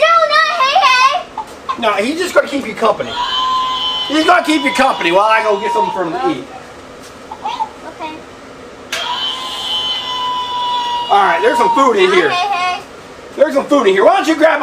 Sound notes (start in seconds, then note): 3.1 Hei Hei cooing; 9.0 Hei Hei cooing